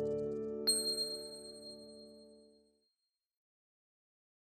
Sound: ping

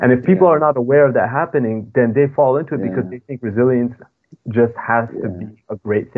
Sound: speaking foreign language

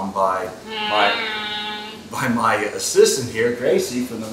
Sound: laughs

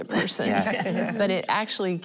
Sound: laughing

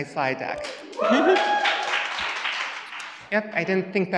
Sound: audience cheers

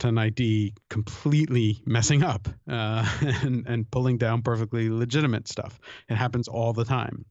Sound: chuckle

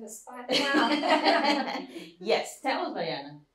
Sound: laughter

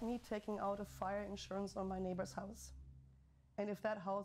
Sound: fire crackling

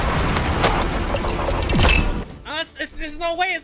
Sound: electronic sounds

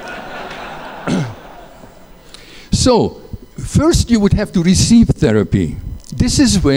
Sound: laughter

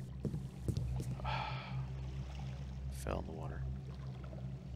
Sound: sighs

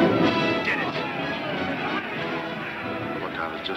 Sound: explosion roaring; cheering

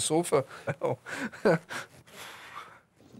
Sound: laughs

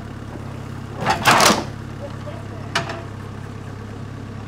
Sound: wood slab thuds

